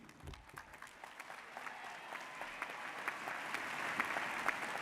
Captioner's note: audience applauds